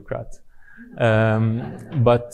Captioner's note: audience chuckling